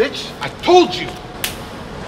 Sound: 'slap'

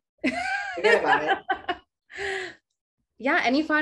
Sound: laughing

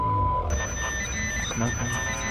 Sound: broadcasting beeps; high pitched static

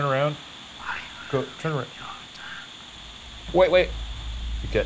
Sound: ghostly whispers

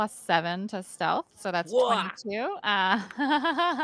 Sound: laughing

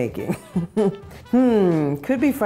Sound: chuckling

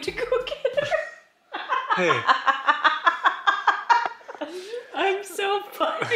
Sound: laughing boisterously

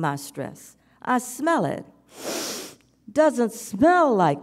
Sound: sniffs

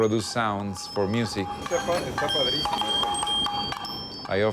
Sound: chiming

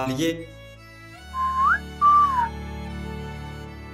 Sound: approving whistling

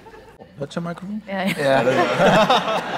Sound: laughter

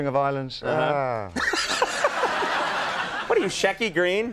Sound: crowd laughs

